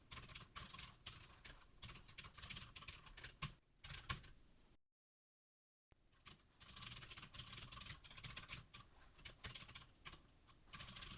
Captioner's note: typing sounds